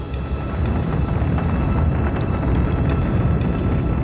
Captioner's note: rumbling